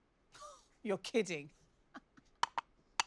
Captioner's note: chuckles